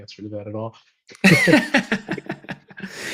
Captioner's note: laughter